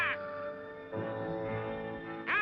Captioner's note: squalk